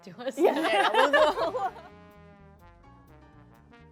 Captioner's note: all laughing